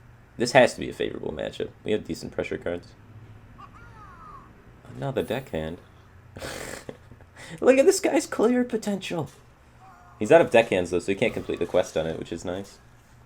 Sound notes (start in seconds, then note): 6.4 chuckle